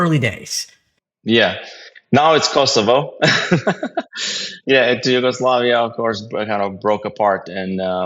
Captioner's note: laugh